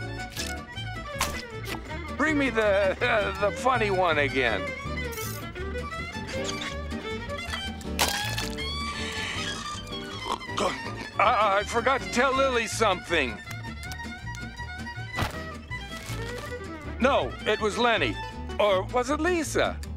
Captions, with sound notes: Bring me the, uh, the funny one again. [snoring] I-I forgot to tell Lily something. No, it was Leni. Or was it Lisa?